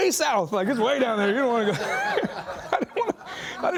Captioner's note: laughing